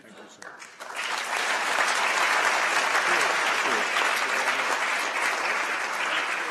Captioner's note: applause